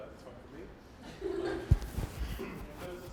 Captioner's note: laughing